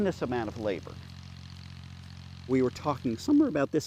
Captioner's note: sprinklers buzzing